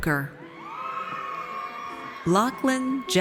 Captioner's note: audience cheers